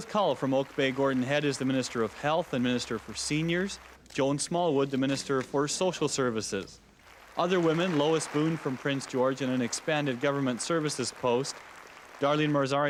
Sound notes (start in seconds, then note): 2.8 cheering and applause